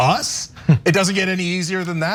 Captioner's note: laugh